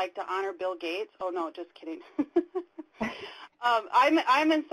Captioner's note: laughs